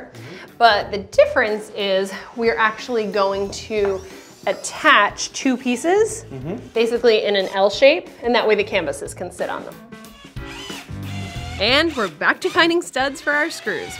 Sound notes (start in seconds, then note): 10.4 whirring